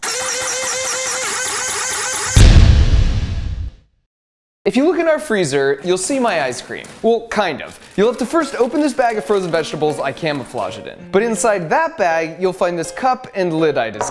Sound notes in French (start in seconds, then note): 0.0 la pompe grince; 2.7 écrasement du métal